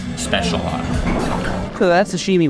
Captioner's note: water gurgling